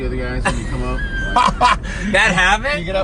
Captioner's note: laughing